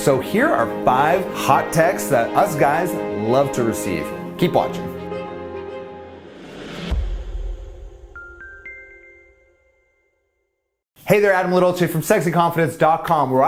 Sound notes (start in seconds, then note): 6.0 logo whooshes